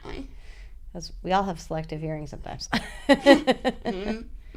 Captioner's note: laughter